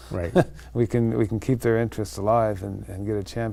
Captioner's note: chuckling